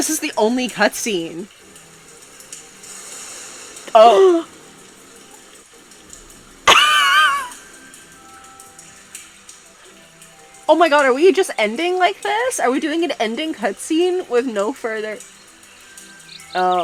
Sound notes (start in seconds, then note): 7.6 gasps